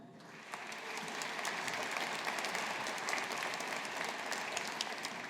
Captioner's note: audience applauding